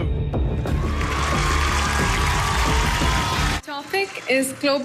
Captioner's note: audience cheering